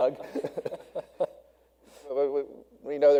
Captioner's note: all laughing